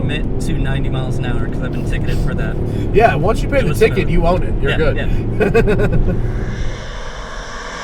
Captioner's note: laughs